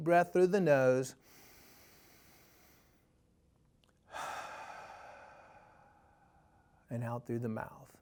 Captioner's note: inhale/Exhale